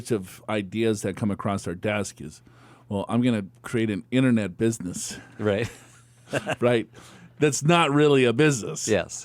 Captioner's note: laughs